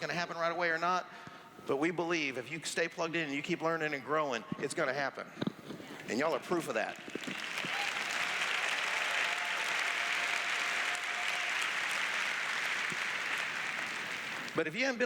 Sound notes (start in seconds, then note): 7.1 cheers; 9.3 applause